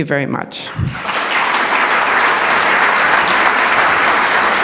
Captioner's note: audience applauds